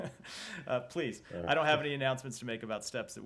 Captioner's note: laughter